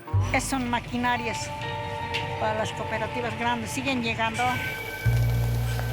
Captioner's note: speaking in foreign language